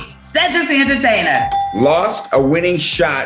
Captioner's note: dings